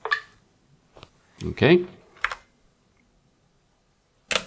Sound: typing

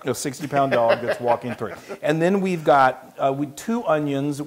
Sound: laugh

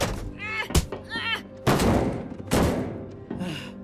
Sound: grunts

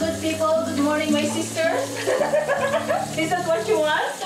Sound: laughing

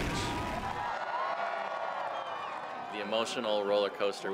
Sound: crowd cheering

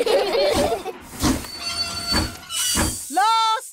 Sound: laugh; train chugs

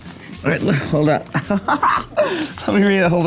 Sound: laughs

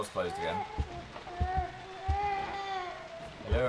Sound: baby crying

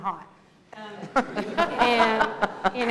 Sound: laughter

